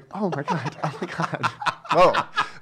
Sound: laughing

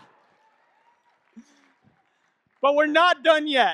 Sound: audience clapping and cheering

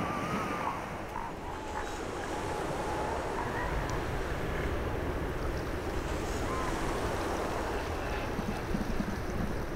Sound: waves; waves. Elephant Seal Pup Grunts

